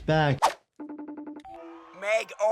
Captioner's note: phone ringing